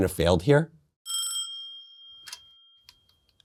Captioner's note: phone rings